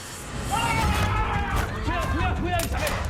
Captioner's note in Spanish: Grito